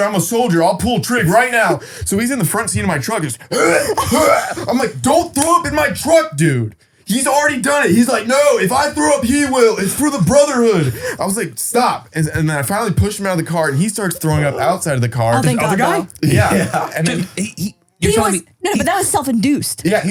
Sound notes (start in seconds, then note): 4.2 retching